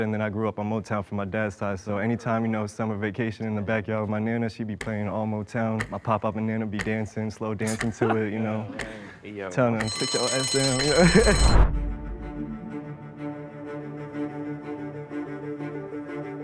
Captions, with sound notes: and then I grew up on Motown from my dad's side. So anytime, you know, summer vacation in the backyard with my nana, she'd be playing all Motown. My pop-pop and nana be dancing. Slow dancing to it, you know? - Yeah, yeah. - Tryn' to kick your... (bell rings) (intense music)